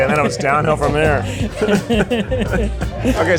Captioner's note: both laughing